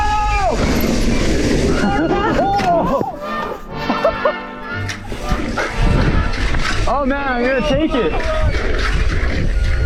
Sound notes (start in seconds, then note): 3.7 laughs